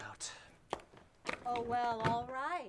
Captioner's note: footsteps